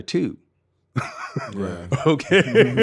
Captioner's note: laughing